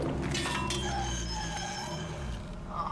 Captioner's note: tires screech